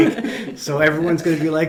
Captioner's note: group laughing